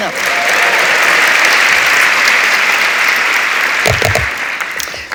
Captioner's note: audience applauds